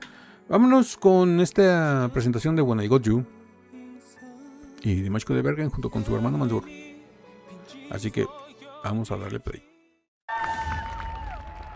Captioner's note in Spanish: ovación